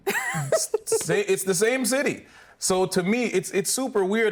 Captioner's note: laughing